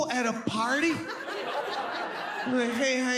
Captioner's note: audience laughs